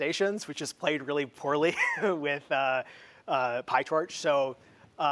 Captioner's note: laughs